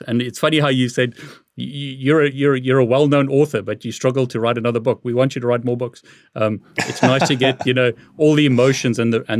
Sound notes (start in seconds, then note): 6.8 laughs